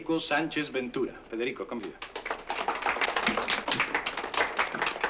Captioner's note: applause